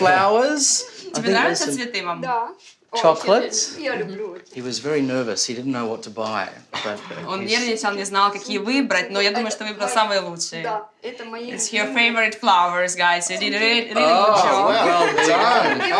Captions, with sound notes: Flowers. (WOMEN SPEAK UKRAINIAN) Chocolates. (SPEAKS UKRAINIAN) He was very nervous. He didn't know what to buy, but he's... (SPEAKS UKRAINIAN) (SPEAKS UKRAINIAN) It's her favourite flowers, guys, so you did a really good job. Oh, well done.